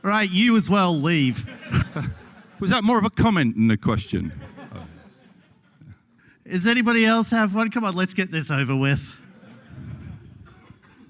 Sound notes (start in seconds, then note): 9.2 laughter